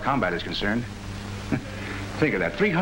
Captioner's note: laughing